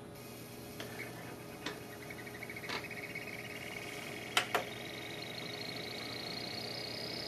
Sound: it does make an interesting, accelerating warbly noise as it tries to spin up

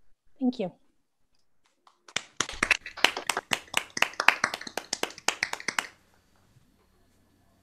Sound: applause

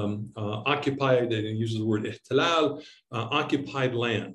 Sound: speaking in Arabic

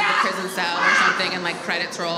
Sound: laughs

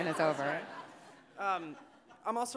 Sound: audience laughing

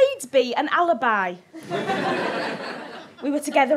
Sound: audience laughs

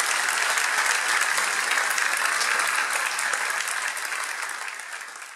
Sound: audience clapping

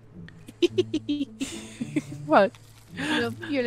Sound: heartless laughter

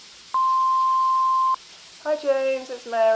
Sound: voicemail tone

